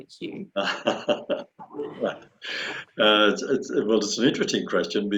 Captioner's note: laughing